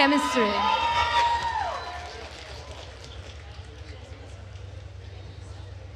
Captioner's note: attendees cheering and applauding